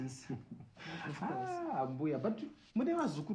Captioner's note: chuckles